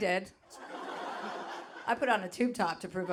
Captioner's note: audience laughing